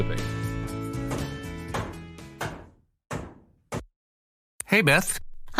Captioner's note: hammer thudding